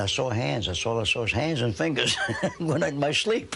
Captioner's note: chuckling